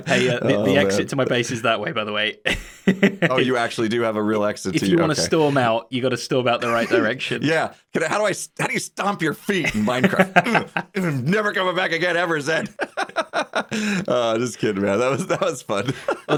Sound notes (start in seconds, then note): 2.5 chuckles; 12.6 both laugh